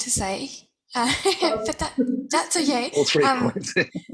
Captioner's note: laughs; laughter